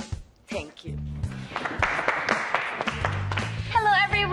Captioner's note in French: clapping